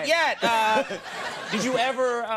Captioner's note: audience laughing